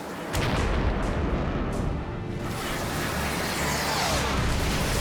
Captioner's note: explosion; explosion